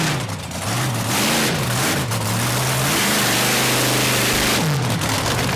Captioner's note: monster truck engine roars